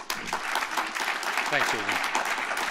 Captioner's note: applause